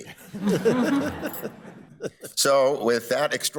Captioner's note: all laughing